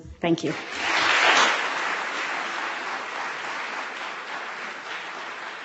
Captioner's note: audience clapping